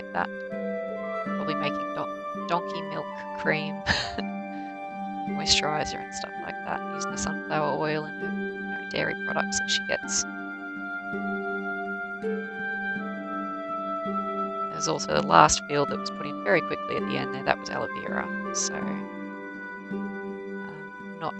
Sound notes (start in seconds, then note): 3.7 laughs